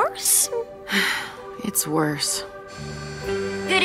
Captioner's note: sighs